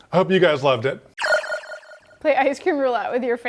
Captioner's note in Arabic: رنين المنبه